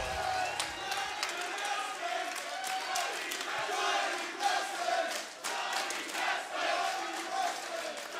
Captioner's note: crowd chatter; crowd cheering